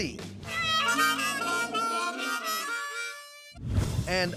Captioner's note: horn sound